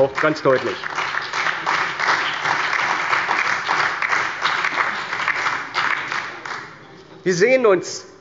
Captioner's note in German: Beifall bei der CDU, der SPD, dem BÜNDNIS 90/DIE GRÜNEN und der LINKEN